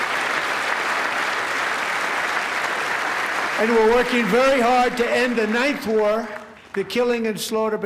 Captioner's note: applause